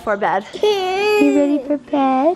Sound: baby vocalizes

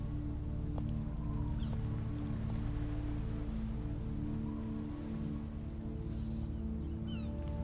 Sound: wind Howling

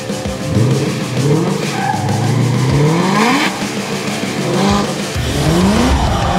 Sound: car engine revving; tires screeching

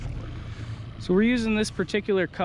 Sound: boat engine idling

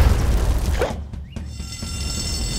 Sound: alarm ringing

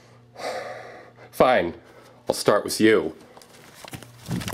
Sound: exhales

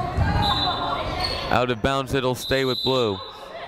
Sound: whistle blowing

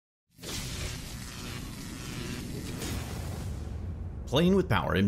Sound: electricity crackling

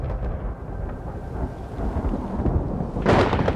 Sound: thunderclaps

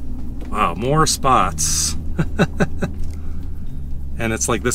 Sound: laughter

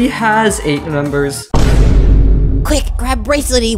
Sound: vine boom of incapacitation

